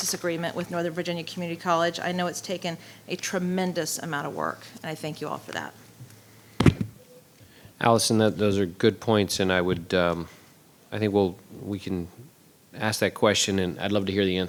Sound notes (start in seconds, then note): 6.5 microphone being bumped